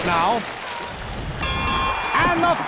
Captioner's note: dinging